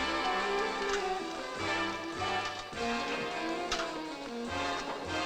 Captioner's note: barrel clunking